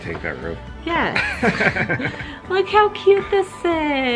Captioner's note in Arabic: يضحك